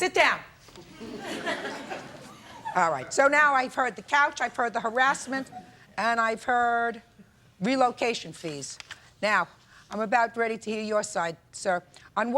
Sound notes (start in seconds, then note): 0.9 audience laughs